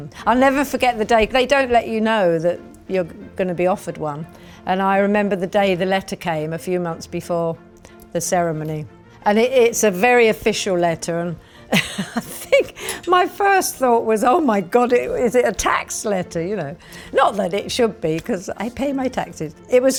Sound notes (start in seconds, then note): 11.7 chuckles